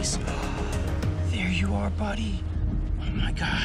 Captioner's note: gasps